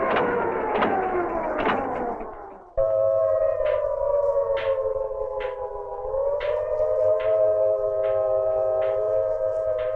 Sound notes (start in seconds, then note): 3.4 cane tapping; 5.5 sirens wailing